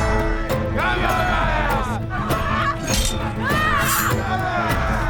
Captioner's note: all cheering; upbeat music